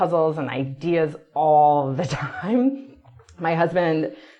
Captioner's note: laughs